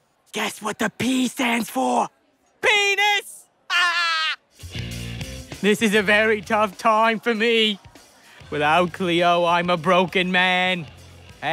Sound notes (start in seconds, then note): 3.7 laughs